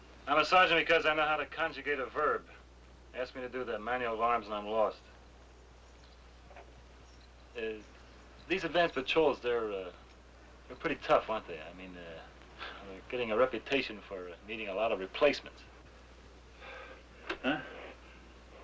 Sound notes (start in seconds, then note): 17.2 sighs